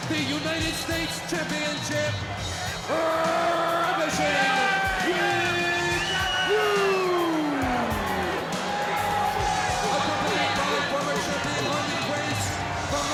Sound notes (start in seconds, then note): 8.1 spectators cheering; 8.1 upbeat music